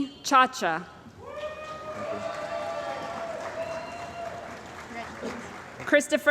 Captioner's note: cheering & Applause